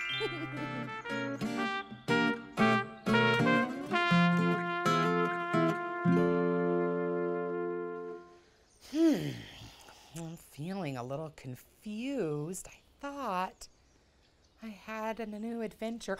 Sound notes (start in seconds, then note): 0.0 lighthearted music; 8.8 sighs